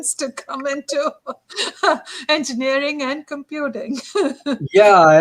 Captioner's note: laughter